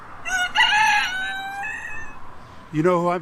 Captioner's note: chicken squawks